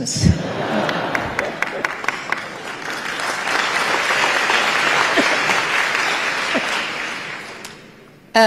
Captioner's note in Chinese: 台下大笑鼓掌